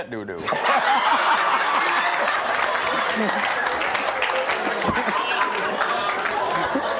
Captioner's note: audience laughing; clapping